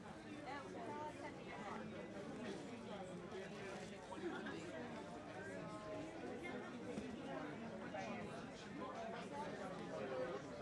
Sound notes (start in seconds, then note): 2.5 people chattering